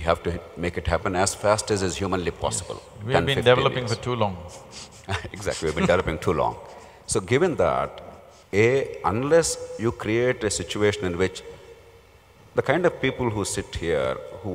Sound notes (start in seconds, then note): 4.8 laughs